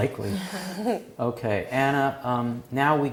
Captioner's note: laugh